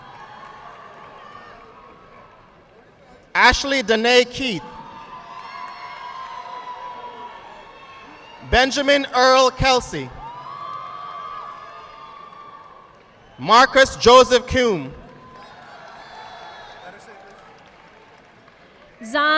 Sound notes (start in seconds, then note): 0.0 audience clapping; 4.9 audience clapping; 10.2 audience applauding